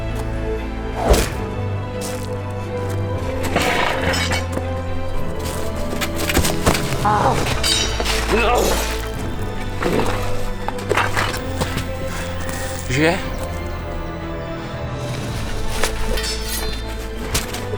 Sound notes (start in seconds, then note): 0.9 arrow hit